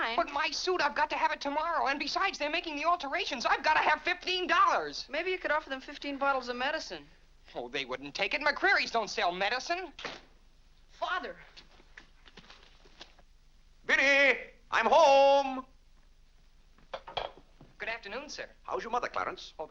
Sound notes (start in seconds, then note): 10.0 door closes